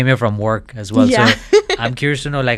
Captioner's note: laughs